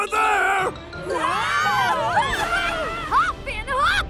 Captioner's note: yelling